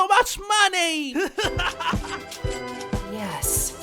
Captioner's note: yang laughs